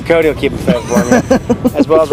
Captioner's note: laughing